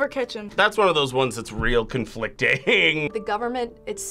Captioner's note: laughs